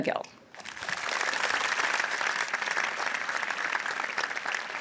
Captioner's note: audience applauds